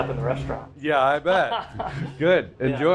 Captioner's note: laughing